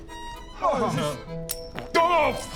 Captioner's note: urghgh